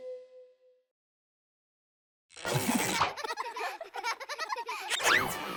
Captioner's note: children laughing